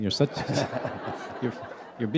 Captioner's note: laughter